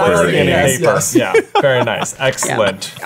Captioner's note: laughing